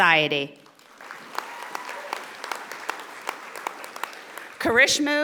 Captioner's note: audience applauding